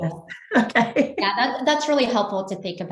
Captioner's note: laughs